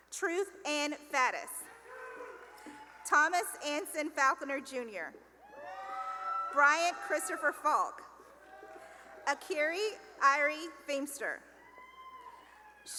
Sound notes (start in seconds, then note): 1.9 cheering; 5.4 cheering; 11.6 cheering